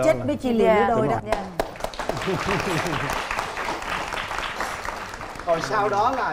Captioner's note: applause